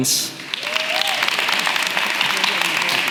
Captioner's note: applause